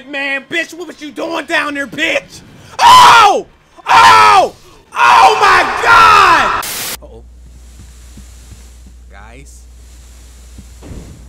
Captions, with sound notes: Man, bitch, what was you doing down there, bitch. (yelling) Oh my God! (static) (steam hisses) Nice.